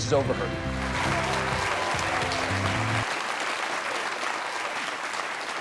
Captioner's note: audience applauding